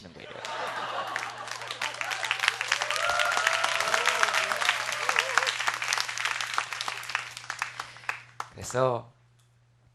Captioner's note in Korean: 박수